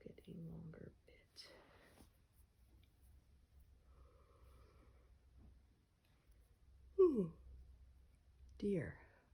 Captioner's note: yawns